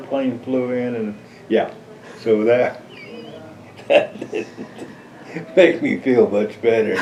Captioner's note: laughs